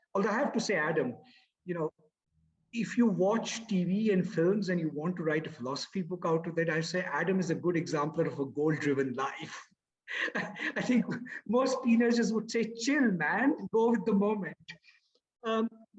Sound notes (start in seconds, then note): 10.1 laughs